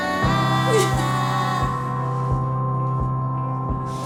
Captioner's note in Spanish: Sollozos